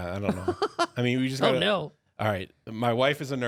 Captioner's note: laughs